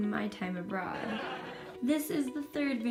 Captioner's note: laugh track